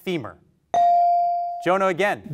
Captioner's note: bell rings